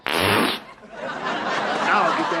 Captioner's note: farting noise; audience laughs